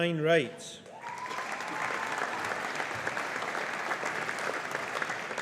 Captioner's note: audience applauding